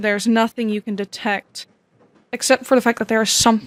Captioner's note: train ambience comes back in the background